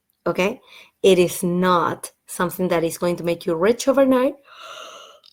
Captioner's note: yawn